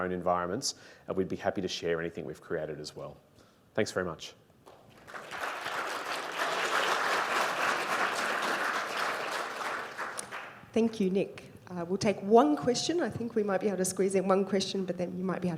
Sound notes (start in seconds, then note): 4.7 applause